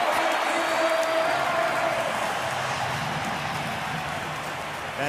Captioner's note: cheering